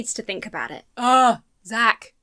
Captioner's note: moans